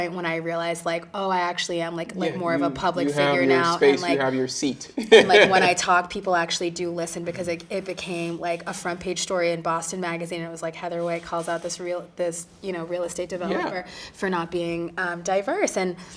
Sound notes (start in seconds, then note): 5.0 chuckling